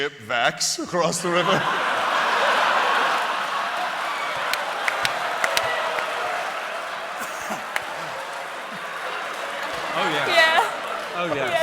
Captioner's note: laughter